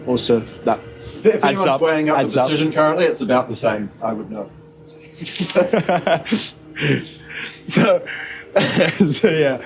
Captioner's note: laughter